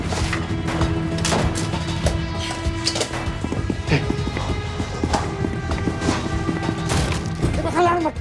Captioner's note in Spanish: Continúan los disparos